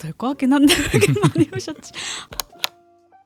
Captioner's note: laughs